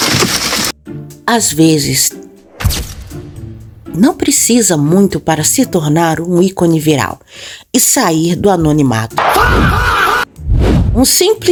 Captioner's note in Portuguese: grito